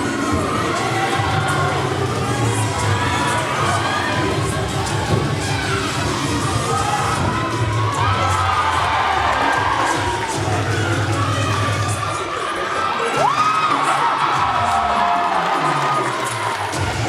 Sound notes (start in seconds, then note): 1.0 cheer music continues; 8.8 audience cheering; 10.7 cheer music playing; 13.6 audience cheering; 16.9 cheer music playing